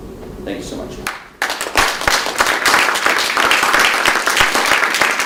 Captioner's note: applause